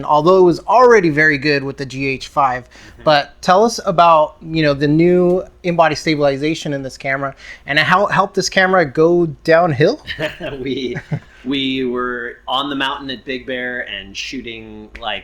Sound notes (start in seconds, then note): 10.0 both laugh